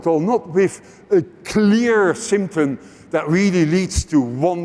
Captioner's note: none